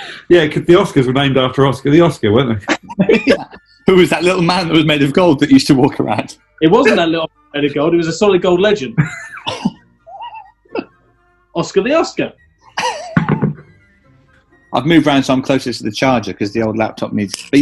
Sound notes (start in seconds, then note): 2.6 laughing